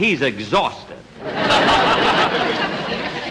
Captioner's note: audience Laughing